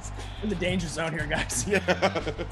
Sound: laugh

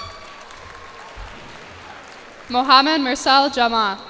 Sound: cheers and applause

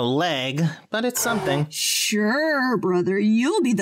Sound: Sarcastic

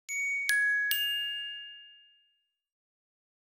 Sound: chimes

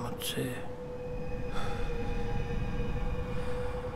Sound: Shorya maoning

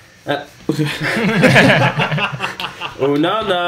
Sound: laughs

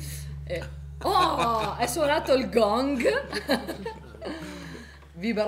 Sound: sound of the gong

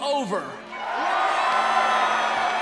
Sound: cheering

